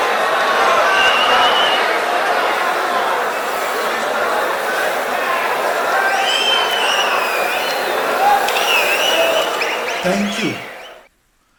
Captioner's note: wild applause and cheering for 22 seconds